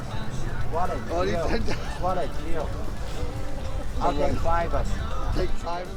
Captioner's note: laughing